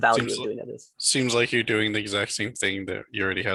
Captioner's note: bold Voice